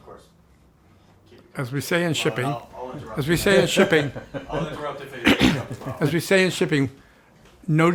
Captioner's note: laughs